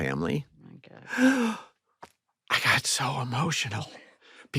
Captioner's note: gasps